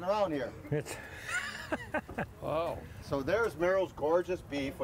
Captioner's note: laughter